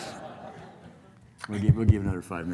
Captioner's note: laughing